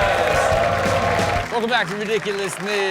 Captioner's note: audience cheers; upbeat music